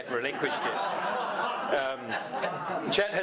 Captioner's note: audience applause